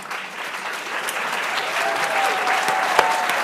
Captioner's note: applause